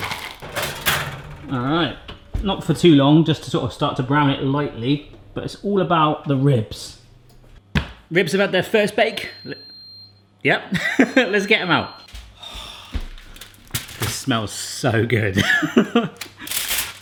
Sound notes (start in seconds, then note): 10.7 laughing; 10.8 oven beeping; 15.4 laughing